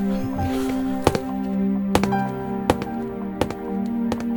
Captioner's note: sound of foot steps